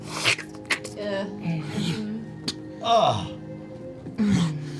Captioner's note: sounds of disgust